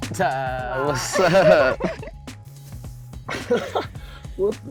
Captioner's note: both laughing; laughs